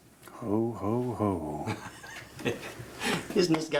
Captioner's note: chuckles